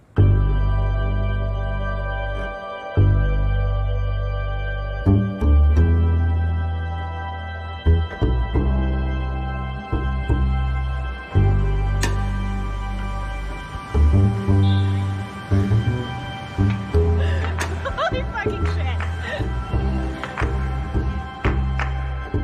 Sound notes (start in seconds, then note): 16.9 laughing